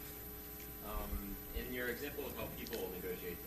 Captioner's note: male Voice